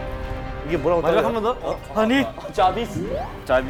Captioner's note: ringing